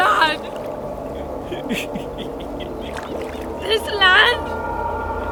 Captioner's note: laughing